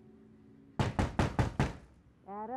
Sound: knocking

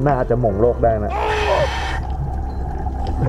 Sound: inhale

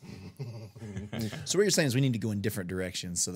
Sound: group chuckling

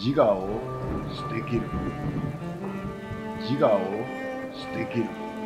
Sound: speaks foreign language

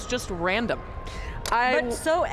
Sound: laughs

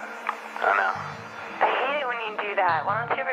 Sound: on phone

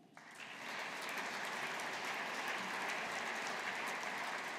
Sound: audience applauding

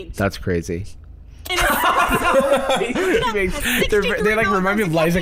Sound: laughing

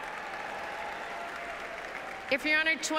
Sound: applauses and cheers

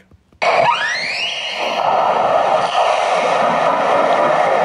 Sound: humpbacks vocalizing

